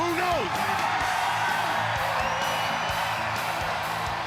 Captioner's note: crowd cheering